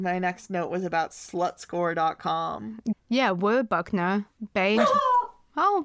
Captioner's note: lenny howls